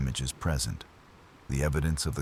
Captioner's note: wind Blowing